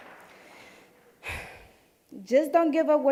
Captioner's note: sighing